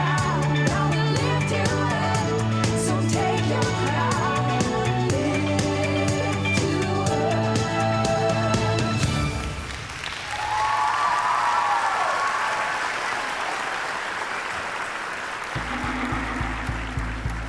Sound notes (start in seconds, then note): 7.9 song ends; 9.2 cheering and applause